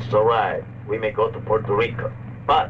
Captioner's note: General Tostada speaking in Spanish